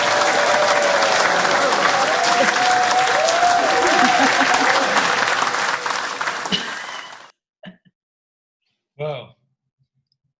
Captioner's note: applause